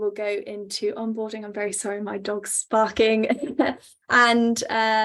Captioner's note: laughs